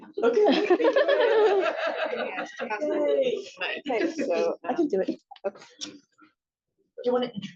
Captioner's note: laughs